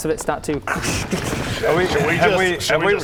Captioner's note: krsshtshtschschch